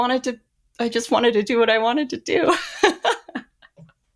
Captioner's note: laughs